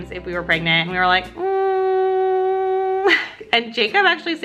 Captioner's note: laughs